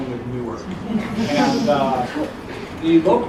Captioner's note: laugh